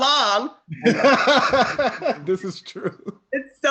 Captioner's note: laughs